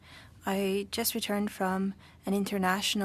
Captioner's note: speaking french